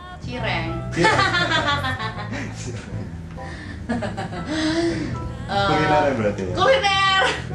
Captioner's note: laugh